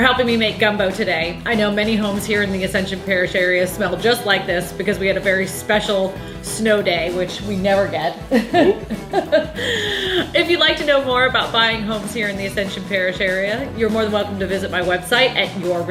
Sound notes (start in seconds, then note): 8.3 laughs